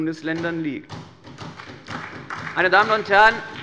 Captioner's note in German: Beifall bei der SPD